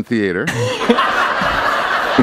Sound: laughter

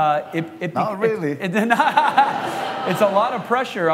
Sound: laughter

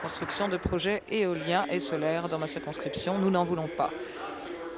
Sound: applause

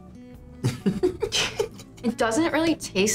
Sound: both laugh

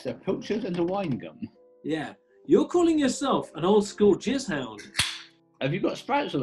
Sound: can opens

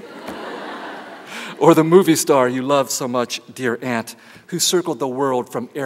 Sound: laughter

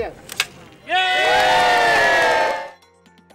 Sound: cheering

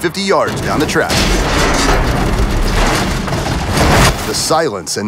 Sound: crash

